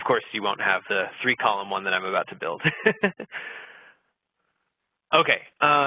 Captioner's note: laughs